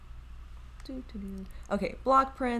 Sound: humming

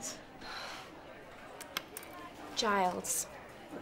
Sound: sighing

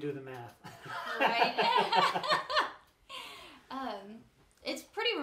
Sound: laughs

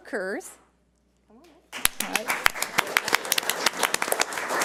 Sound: audience applauds

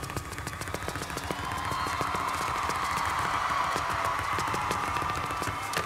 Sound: audience cheers and applauds

